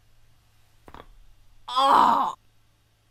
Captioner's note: neck muscles cracking